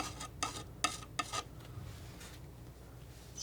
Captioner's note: scratching